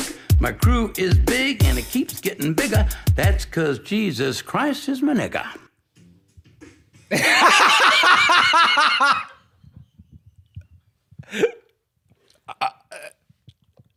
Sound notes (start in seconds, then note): 7.1 laughing; 12.4 stammering